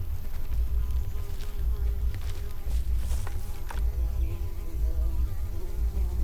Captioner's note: flies buzzing